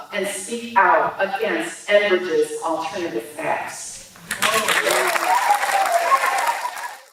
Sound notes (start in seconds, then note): 4.2 applause